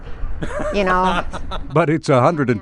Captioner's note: man laughing